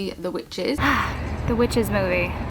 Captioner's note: sighs